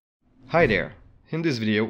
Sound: whooshing

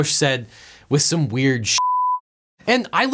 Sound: beep

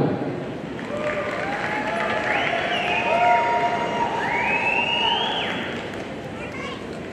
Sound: audience cheering and applauding

